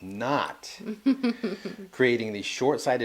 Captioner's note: laughing